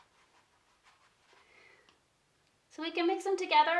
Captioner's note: paintbrush scratching